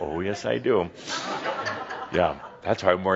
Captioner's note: some chuckles